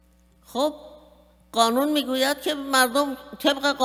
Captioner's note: speaking persian